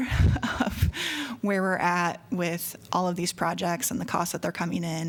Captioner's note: laughter